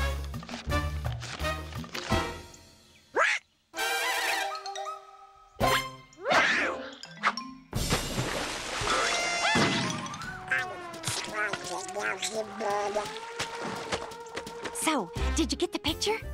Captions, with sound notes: What? (DONALD EXCLAIMS) (GRUMBLING) So, did you get the picture?